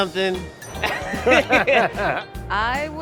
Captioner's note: laughter